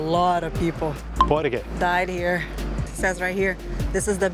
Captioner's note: in Portuguese